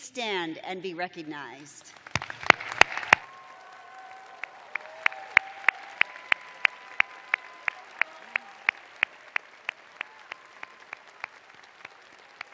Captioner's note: cheers and applause